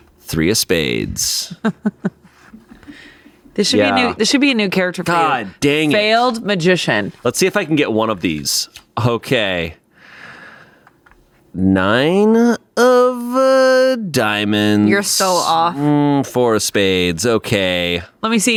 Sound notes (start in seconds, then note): 1.5 laughs